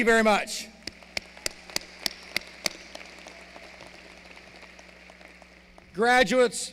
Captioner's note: applause